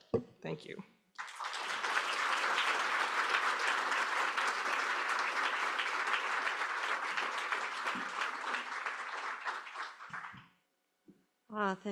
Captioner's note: applause